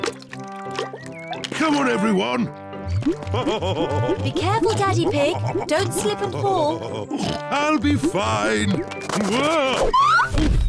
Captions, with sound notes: Come on, everyone! (LAUGHS) Be careful, Daddy Pig! Don't slip and fall! I'll be fine! Whoa! Oof!